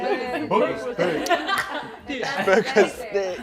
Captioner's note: laughter